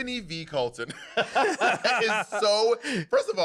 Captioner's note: laughter